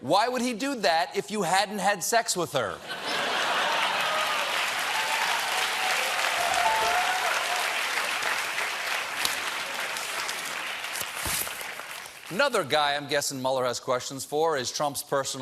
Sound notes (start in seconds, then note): 2.8 laughter; 3.2 cheers and applause